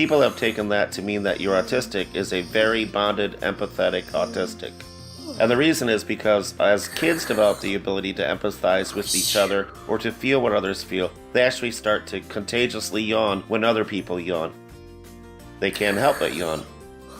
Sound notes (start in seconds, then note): 3.7 yawns